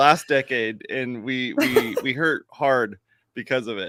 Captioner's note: laughs